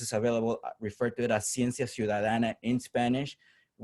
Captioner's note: spanish